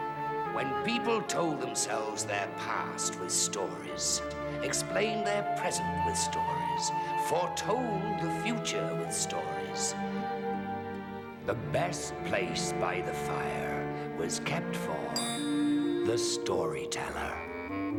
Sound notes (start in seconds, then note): 15.2 clinks